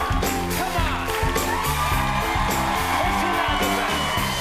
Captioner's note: applause